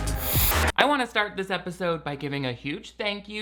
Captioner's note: funky music; static buzzing